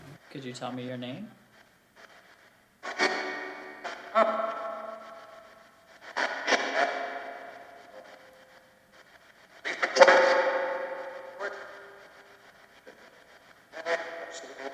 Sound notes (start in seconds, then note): 0.3 radio shuffling sounds begin; 3.1 static crackles; 4.3 ghostly male voice echoes; 9.9 ghostly male voice warbles